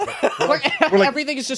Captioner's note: laughing